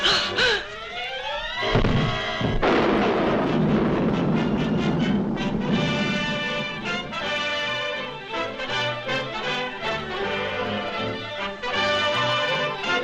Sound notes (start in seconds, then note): 0.0 Lois gasps; 1.8 fist thuds; 5.5 triumphant music